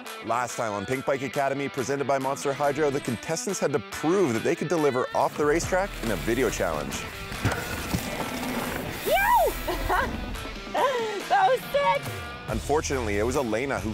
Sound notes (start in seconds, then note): 0.0 bright upbeat music; 7.5 bright upbeat music; 9.0 laughing